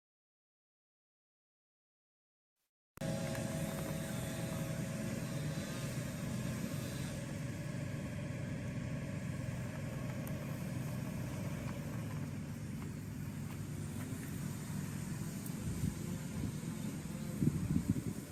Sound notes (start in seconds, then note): 3.3 weed whacker humming; 13.7 weed whacker humming continues